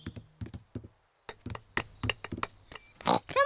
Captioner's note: snorts